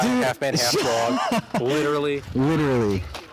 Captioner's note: laughing; sarcastic